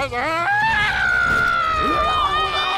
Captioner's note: screams